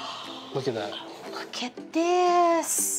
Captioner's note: gasping